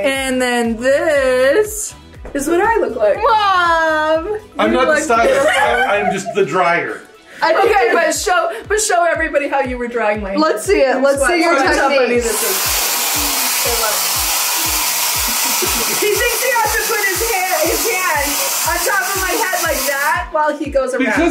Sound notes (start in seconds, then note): 13.5 whooshing from blow dryer; 15.2 both laughing